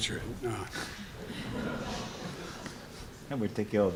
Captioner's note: laughter